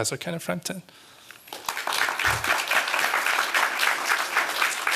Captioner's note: applause